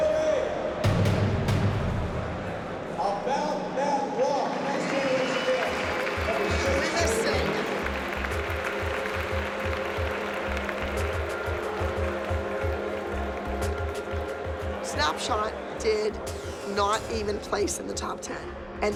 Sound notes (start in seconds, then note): 4.6 cheering and applause; 8.0 ominous music